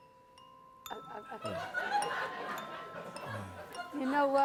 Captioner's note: soft whimsical music plays; laughter